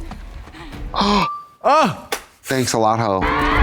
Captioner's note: Trixie gasps